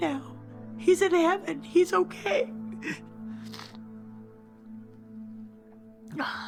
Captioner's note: sobs